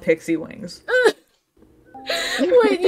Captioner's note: pained noise